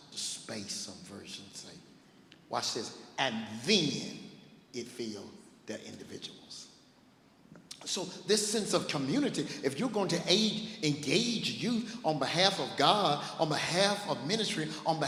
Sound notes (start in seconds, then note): none